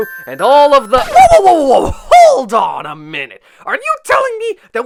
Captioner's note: record Scratch